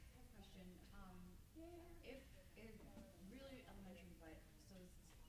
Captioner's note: stammers